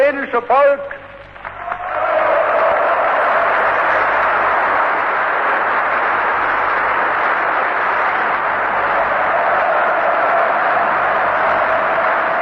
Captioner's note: applause